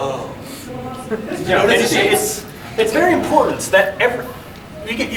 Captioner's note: audience chuckling